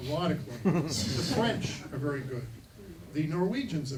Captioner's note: chuckling